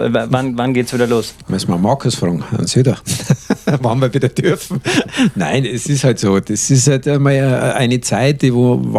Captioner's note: laughing